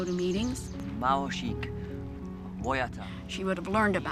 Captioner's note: speaking local language